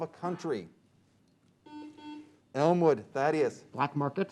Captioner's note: beep